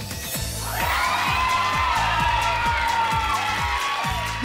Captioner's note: crowd exclaims